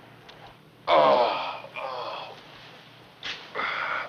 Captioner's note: moans